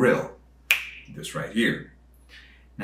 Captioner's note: fingers snapping